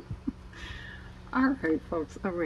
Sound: laughs

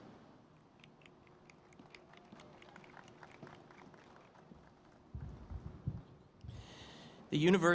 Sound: applause

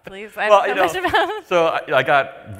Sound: laughs

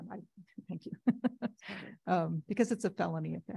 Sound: giggles

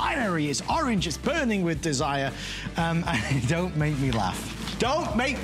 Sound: laughter

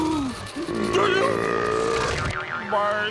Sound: burping

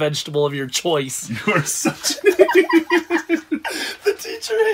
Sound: laughs

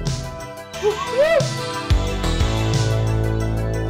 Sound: whooping laugh

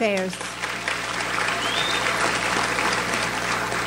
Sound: audience applauds

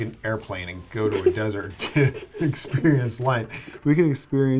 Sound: laughs

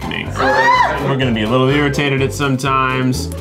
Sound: loud scream

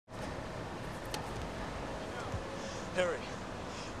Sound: engine running

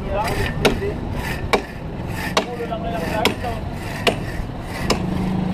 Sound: indistinct chatting

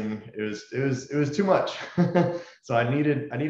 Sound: laughs

